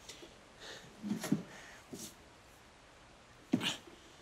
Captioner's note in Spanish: none